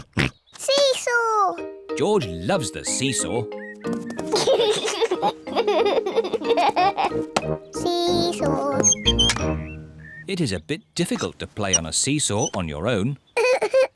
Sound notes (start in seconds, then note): 0.0 oinks; 4.2 giggles